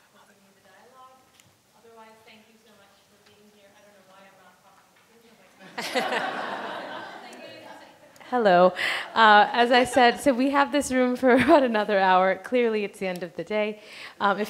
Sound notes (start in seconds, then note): 5.6 audience laughing